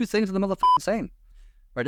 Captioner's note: beep